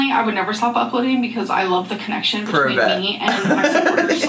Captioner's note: laughs